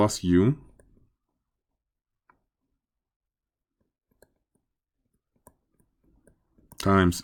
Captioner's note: writing